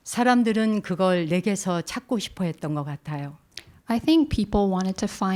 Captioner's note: speaking in Korean